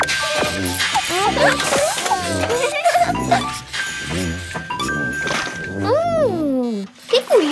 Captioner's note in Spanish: Sonido de maquina; Risas